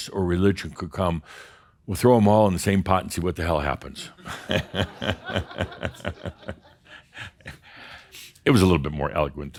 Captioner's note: laughter